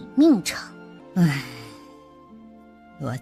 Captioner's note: sigh